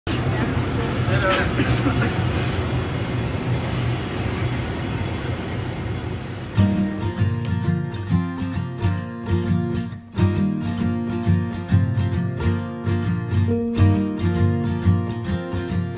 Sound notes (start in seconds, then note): 0.2 chuckles; 6.6 gentle guitar music